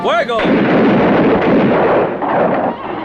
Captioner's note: guns fire